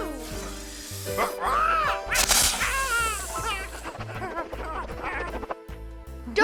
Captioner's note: צווחות